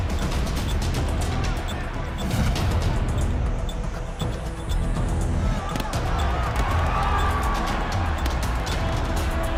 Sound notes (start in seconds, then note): 4.3 crowd chattering; 4.3 punches landing